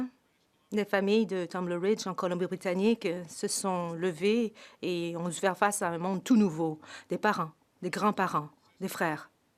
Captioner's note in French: voix de l'interprète